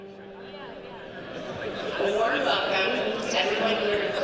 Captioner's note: background chatter